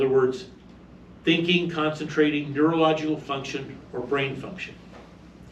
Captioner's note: reading from paper